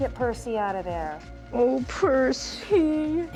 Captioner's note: crying